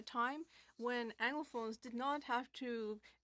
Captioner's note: speaking French